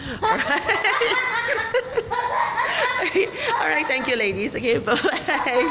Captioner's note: laughs; child laughing